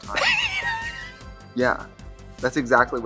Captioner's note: laughs